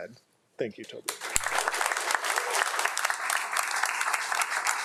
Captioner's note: crowd applauding